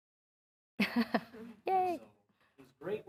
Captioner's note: chuckling